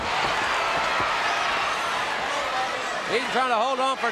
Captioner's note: audience cheering